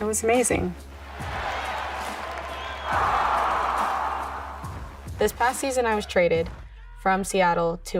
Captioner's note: cheering